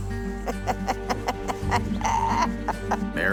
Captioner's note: chuckling